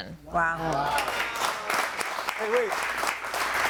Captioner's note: audience applauding